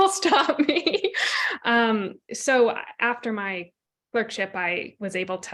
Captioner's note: laughter